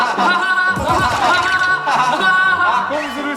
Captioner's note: hahahaha